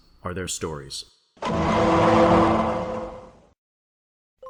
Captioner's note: "The Clang" from Law & Order plays